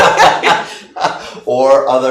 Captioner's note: laughing